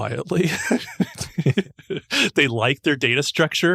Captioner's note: laughing